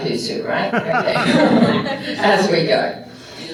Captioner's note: laughter